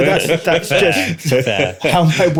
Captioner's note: laughter